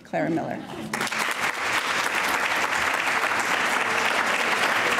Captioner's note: applauding